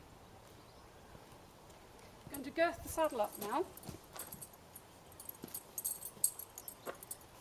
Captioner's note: sound of movement; sound of movement